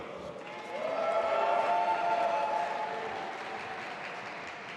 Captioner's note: audience applauding